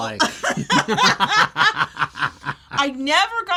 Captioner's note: both laugh